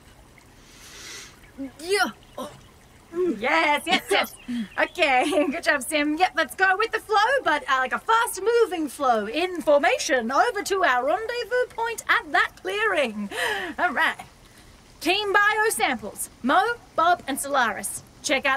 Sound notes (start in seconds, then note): 14.0 rushing water gets louder